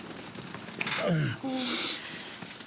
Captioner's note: John groans